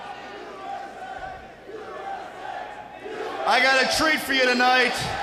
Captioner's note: crowd cheering